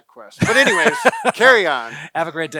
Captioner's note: laughs